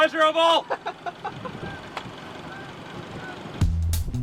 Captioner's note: laughing; relaxed music